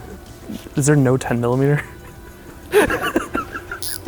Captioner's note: laughs